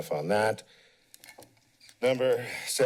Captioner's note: pause